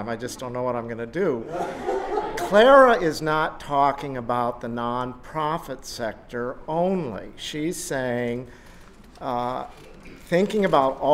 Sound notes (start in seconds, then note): 1.4 laughter